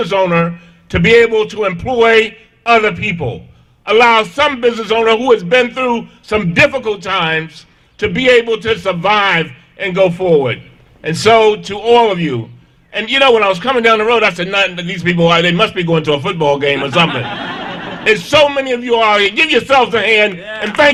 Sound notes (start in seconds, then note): 16.7 laughter